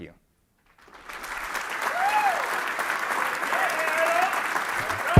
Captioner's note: applause